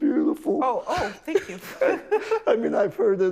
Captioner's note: laughs